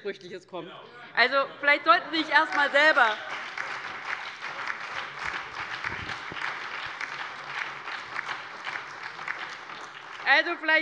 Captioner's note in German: Heiterkeit und Beifall bei der LINKEN, der SPD und der FDP